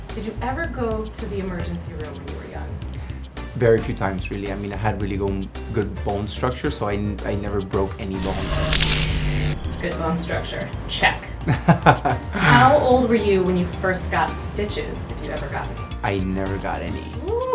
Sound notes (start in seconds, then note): 8.2 X-ray machine buzzes; 11.4 laughs; 17.2 woman woos